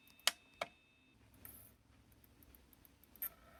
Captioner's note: click